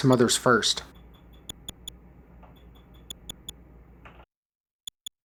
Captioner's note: soft, high-pitched clicks